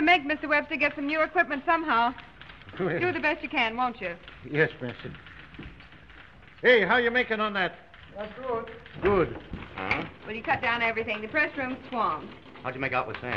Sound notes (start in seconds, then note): 2.6 printer chuckles